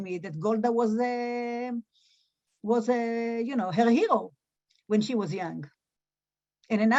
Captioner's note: Hebrew